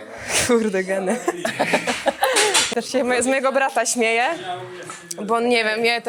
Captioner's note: laughs